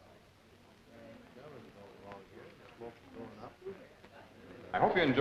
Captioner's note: people socializing